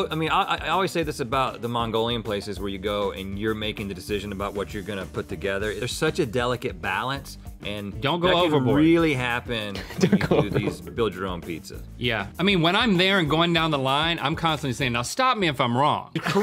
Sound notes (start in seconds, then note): 9.7 chuckling